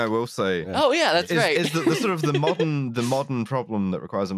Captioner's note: laughs